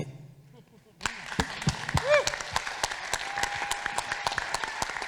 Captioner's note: audience applauding